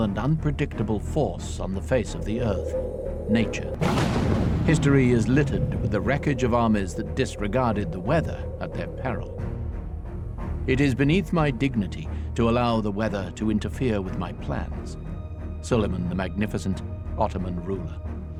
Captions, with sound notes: and unpredictable force on the face of the Earth. Nature. (thunder crackles) (suspenseful music) History is littered with the wreckage of armies that disregarded the weather at their peril. "It is beneath my dignity to allow the weather to interfere with my plans." Suleiman the Magnificent, Ottoman ruler.